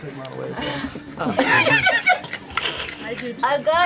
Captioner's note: laughter